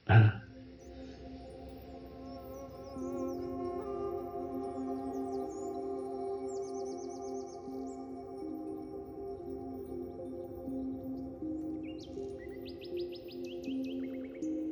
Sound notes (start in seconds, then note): 0.0 Eckhart laughs; 0.2 gentle music; 4.1 birds sing; 7.4 gentle music continues